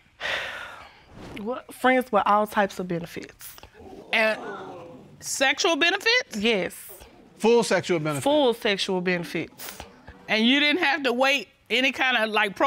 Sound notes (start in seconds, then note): 0.2 sighs; 3.8 audience gasps